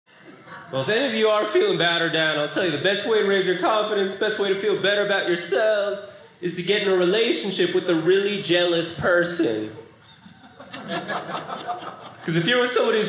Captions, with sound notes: Well, if any of you are feeling bad or down, I'll tell you the best way to raise your confidence, best way to feel better about yourselves, is to get in a relationship with a really jealous person. (audience laughing) Because if you're with somebody